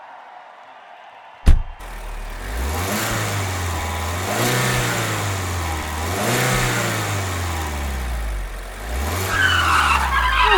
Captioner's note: car revving, driving off